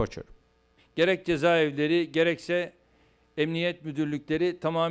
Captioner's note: non-english speech